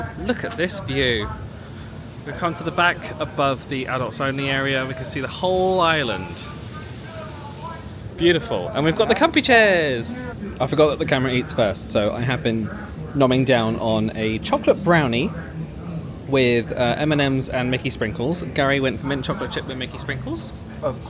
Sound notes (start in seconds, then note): 7.0 crowd chattering